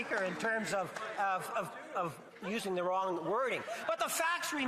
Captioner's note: laughter